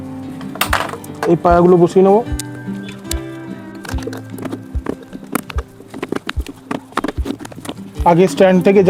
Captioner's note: sound of legs being fitted